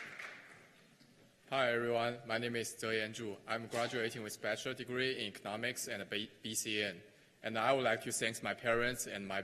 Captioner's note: cheers and applause